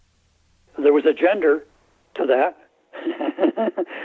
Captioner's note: laughter